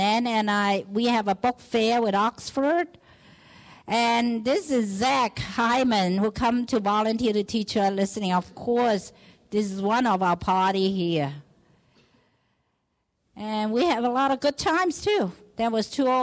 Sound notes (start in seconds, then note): none